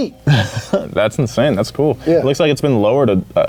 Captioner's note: chuckles